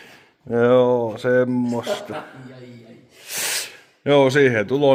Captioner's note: chuckles